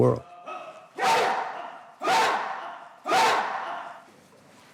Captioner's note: students yelling